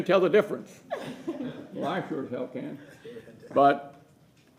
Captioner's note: laughter